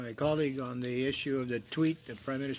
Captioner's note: speaking French